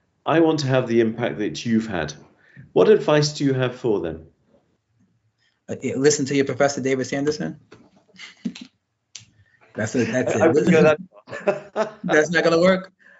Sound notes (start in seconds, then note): 5.7 laughs; 8.1 laughter